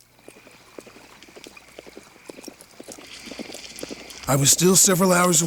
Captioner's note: hooves clop